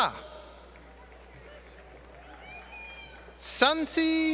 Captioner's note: applause